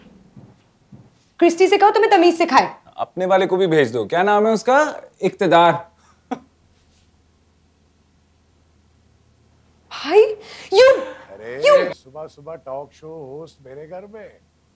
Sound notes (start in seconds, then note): 6.2 laughs; 14.3 mumbles